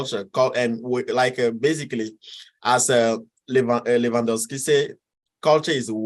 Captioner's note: speaks in foreign language